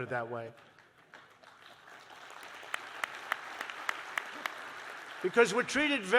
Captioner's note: applause